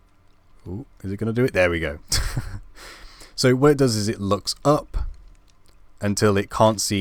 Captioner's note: laugh